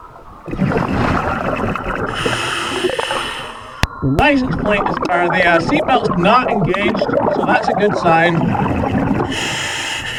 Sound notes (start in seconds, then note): 0.5 water burbling; 2.2 regulator hissing